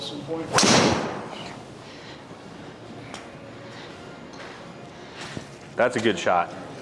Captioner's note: club swishing and clicking; impact of ball thudding